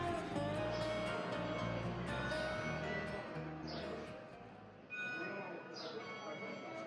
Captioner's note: music fading out sound of church bells playing a tune